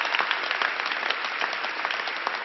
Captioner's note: applause